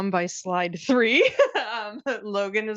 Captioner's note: laughing